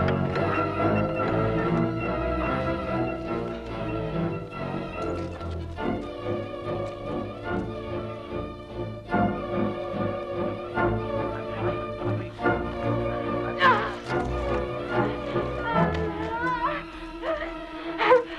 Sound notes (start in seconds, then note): 13.6 Hundra grunts